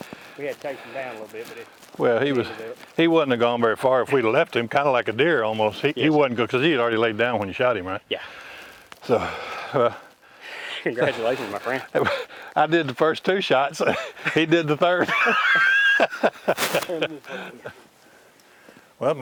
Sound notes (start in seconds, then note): 9.0 heavy sighs; 12.5 laughs; 15.7 laughing